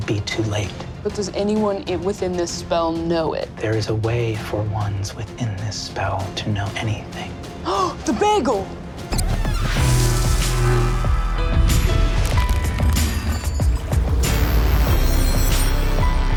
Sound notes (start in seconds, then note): 8.3 gasps; 9.8 dramatic music